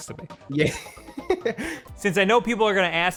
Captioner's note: laughs